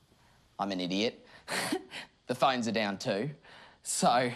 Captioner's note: laughs